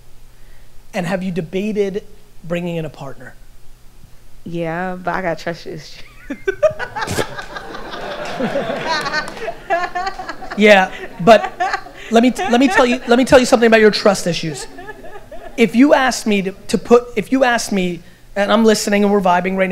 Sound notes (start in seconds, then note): 6.8 audience laughter